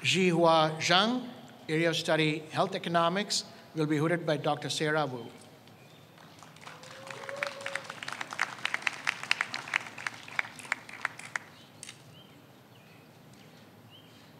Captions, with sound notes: Zhihua Zhang, area of study health economics, will be hooded by Dr. Sarah Wu. (audience applauds)